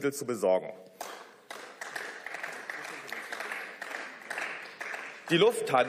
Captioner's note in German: Beifall